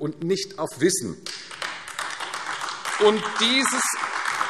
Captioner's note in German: Beifall AfD